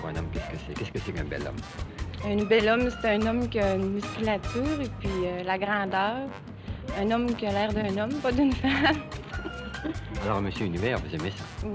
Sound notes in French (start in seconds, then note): 8.6 rires